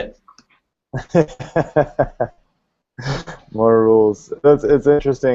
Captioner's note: laughs